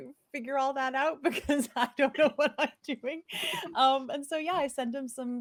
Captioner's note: laughs